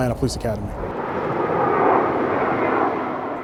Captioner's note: airplane noise